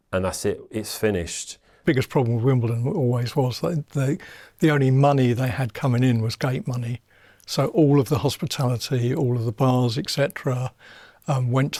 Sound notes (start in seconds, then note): none